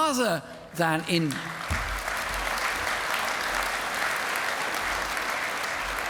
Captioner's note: applause